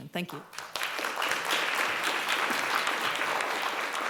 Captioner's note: applause